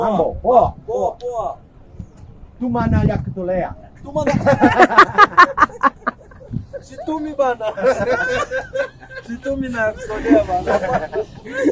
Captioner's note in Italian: Risate